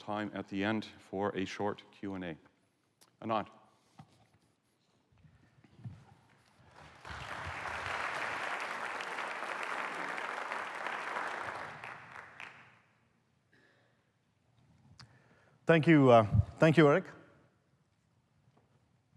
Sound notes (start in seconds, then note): 8.3 applause